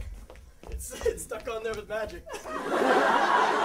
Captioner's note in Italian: Gli scappa da ridere xD